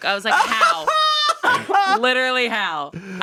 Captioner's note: laughs